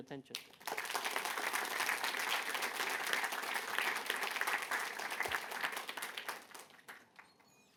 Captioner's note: applause